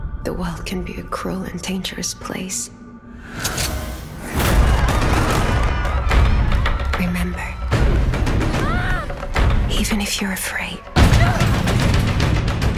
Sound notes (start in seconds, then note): 4.2 guns firing; 4.3 people screaming; 11.2 dramatic music